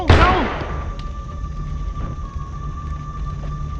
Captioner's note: gunshot blasts; ominous music